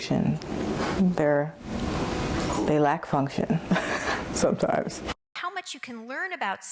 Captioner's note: laughs